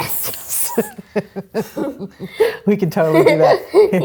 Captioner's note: laughs